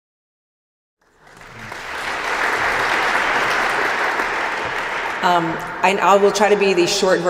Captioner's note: applause